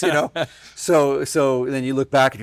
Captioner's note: laughing